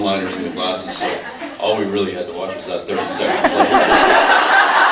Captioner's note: laughs